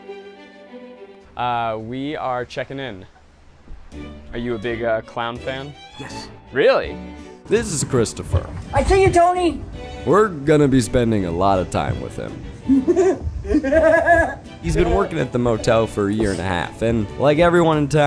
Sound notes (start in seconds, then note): 5.4 upbeat music; 12.6 laughs